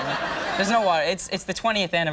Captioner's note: audience laughing